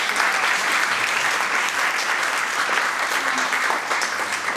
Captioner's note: audience applauding